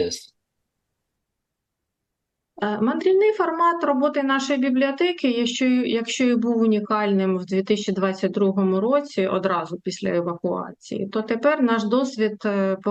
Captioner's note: foreign language